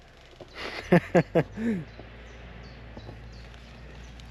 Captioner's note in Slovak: smiech